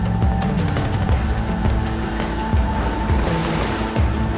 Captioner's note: waves crashing